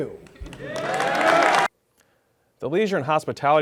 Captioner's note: applause